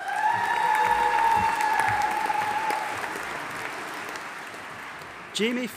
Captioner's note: audience applauding and cheering